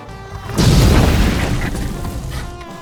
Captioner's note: kaboom